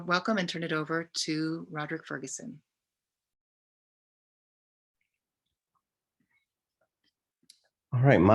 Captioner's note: silence